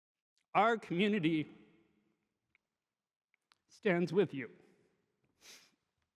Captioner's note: sniffles